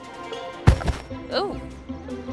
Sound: trash can thumps

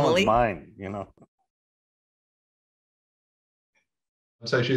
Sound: speaking Russian

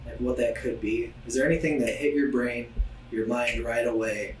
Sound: snaps fingers

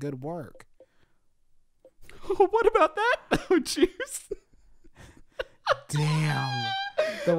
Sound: laughs

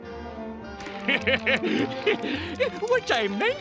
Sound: laughing

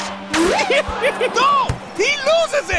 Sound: laughing

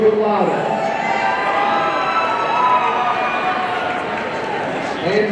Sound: audience cheering

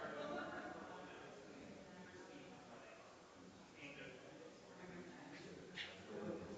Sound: people chattering distantly continues

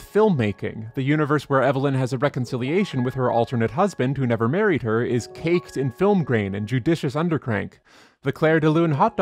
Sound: deep breath

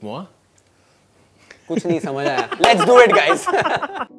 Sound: mumbles something in pretend French; both laugh; laughs

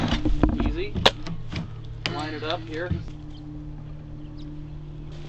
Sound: tractor noise

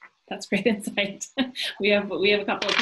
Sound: laughs

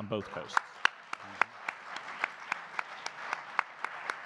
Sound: audience clapping

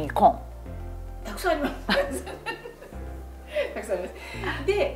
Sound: laughs

